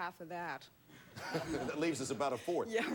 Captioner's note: audience laughing